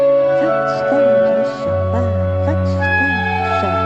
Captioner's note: foreign language